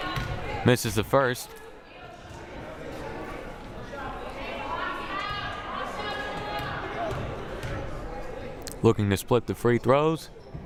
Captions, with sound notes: Misses the first. (crowd murmuring) Looking to split the free throws.